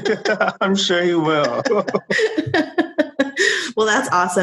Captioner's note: laughing